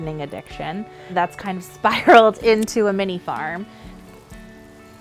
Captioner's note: laughs